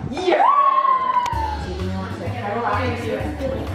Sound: children cheer

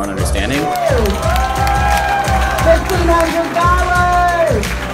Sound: cheers

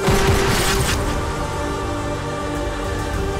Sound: gun shoots

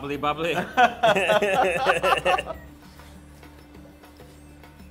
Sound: laugh

